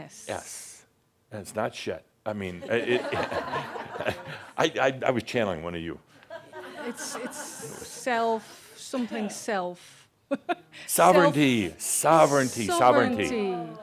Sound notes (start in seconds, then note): 2.6 laughter; 10.3 she chuckles